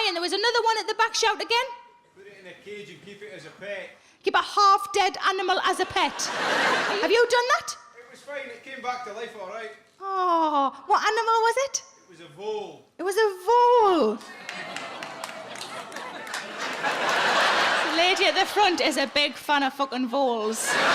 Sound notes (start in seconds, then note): 14.3 audience cheering